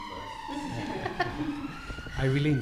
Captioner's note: audience laughs